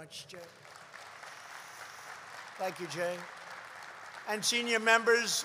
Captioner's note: applause